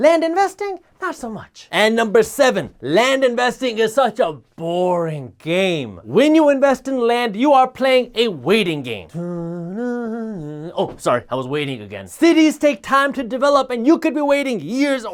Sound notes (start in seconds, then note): 9.1 humming